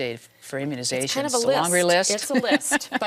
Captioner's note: laughs